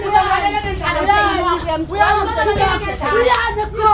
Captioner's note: arguing